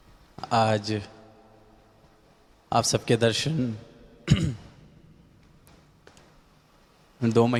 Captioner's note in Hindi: गला साफ़ करने की आवाज़